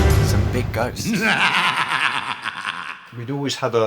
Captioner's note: evil laugh